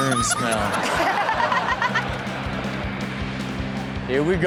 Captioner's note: all laugh